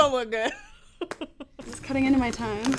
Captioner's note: laughing